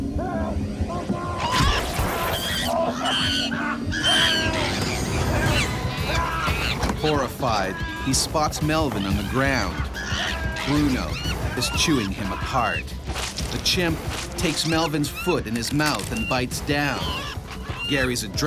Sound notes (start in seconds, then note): 3.6 chimpanzee shrieking; 7.6 voiceover